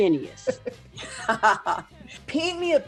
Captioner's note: laughing lightly